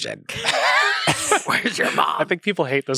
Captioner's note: everyone laughs